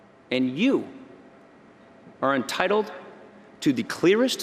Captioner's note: none